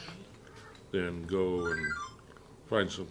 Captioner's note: phone ringing